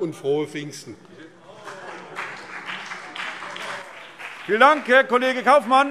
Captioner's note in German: Beifall BÜNDNIS 90/DIE GRÜNEN und CDU - Zurufe